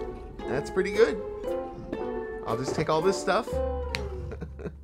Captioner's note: laughs